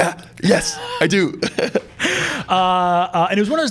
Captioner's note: both laughing